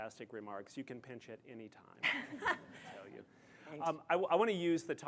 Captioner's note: laughing